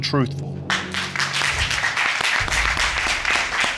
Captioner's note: all applauding